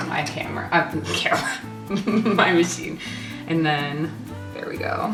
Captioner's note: laughs